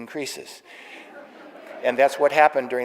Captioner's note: audience laughing